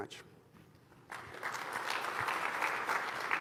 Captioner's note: applause